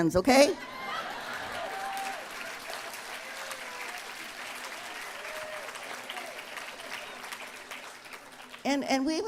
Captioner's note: applause